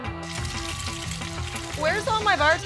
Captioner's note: food sizzling